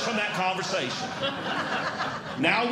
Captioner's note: audience Laughing